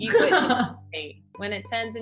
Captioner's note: laughs